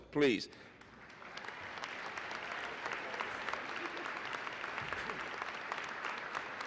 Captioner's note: applause